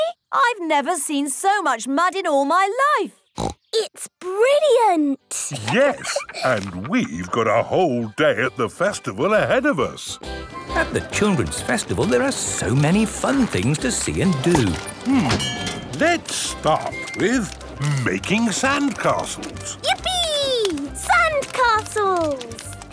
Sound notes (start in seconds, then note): 5.4 laughs; 10.2 festival buzz and music